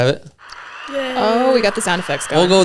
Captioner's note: applause noise